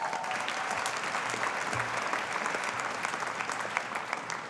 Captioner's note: audience applauding